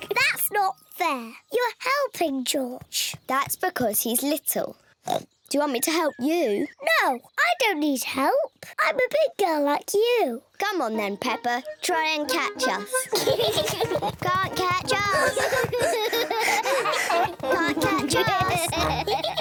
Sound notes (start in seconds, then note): 5.0 oinks; 12.7 george giggling; 15.0 breathes heavily